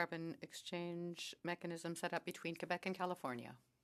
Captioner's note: speaking French